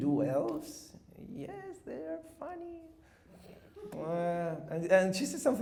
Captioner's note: chuckles